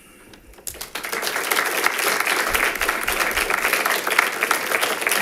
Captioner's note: audience applauding